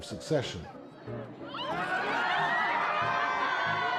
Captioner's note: crowd laughing